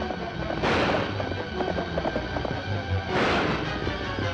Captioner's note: guns firing